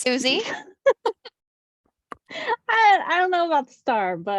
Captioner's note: laughs